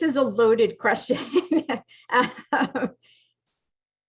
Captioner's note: laughing